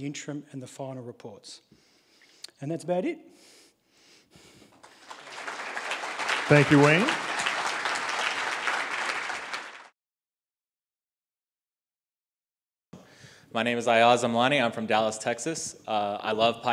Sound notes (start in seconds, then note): 4.7 applause